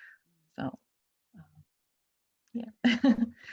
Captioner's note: chuckles